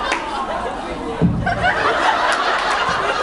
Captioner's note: laughs; thumps mic stand; laughs